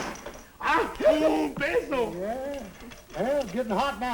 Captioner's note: non-english speech